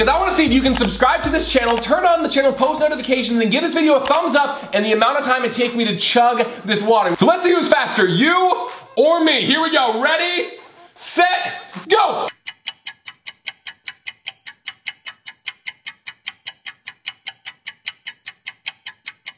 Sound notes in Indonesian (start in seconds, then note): 12.1 jam terus berdetak